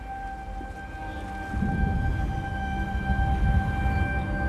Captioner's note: tense instrumental music; distant thunder rumbling